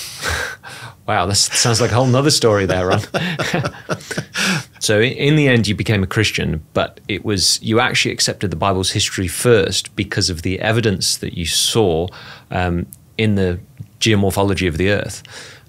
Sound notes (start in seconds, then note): 1.4 laughing